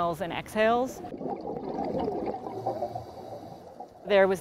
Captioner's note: water gurgling